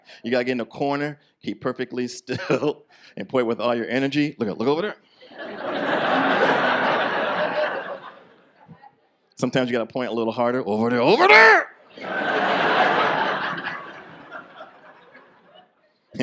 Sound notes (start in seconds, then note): 5.3 audience laughs; 11.9 audience laughs